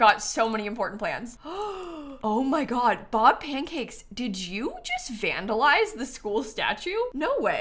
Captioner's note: gasps